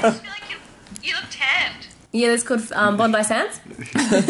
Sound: laughter

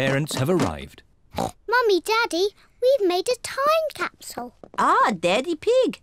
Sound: oinks

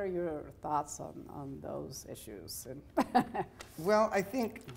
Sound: laughing

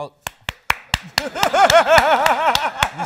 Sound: clapping; laughs

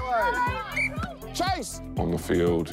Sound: whistle blows

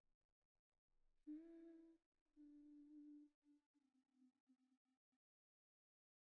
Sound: soft humming

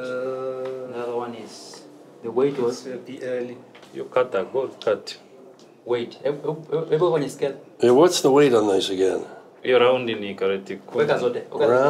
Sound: speak Swahili

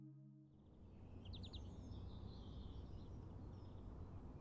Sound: birdsong

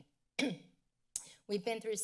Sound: clears throat

